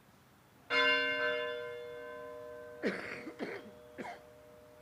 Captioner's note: bell ringing